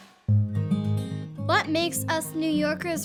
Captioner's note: cheerful music playing; child's Voice Narrating